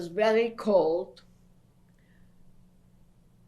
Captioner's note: pauses for 3 seconds